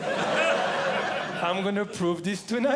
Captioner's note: audience Laughing